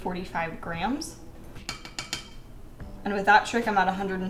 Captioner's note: tap tap tap